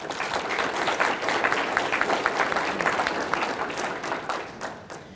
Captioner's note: audience applauding